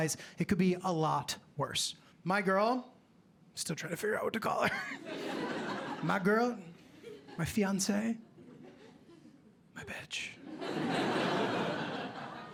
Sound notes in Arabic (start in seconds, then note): 9.5 همس; 10.4 ضحك